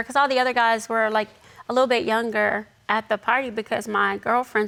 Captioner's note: none